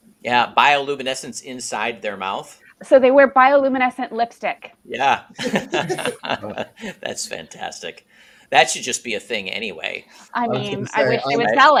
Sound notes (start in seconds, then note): 5.0 laughs